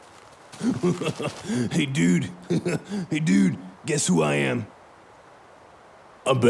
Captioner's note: giggling incessantly; laughs